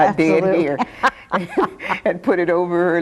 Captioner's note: both laughing